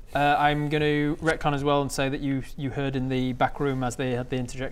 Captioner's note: none